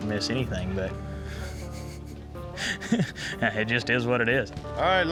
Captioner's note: chuckles